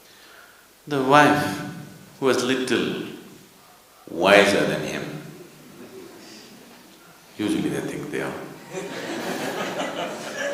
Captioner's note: laughter